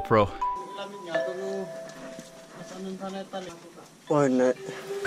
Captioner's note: man speaking in foreign language